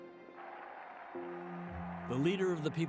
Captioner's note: cheering